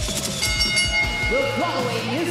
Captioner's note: bell rings